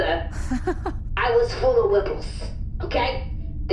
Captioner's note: laughs